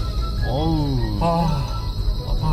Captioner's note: A big sigh Lol